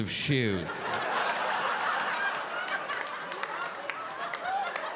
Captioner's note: audience laughing